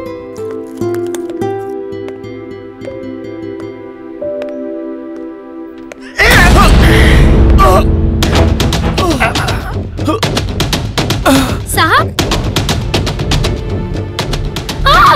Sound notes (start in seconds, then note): 8.9 groans